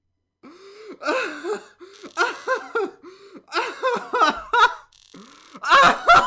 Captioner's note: laughter